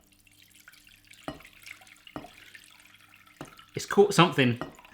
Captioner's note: water pours